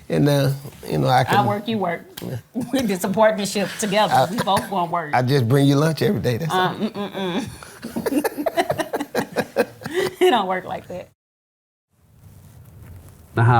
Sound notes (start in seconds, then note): 3.5 laughs; 6.2 laughs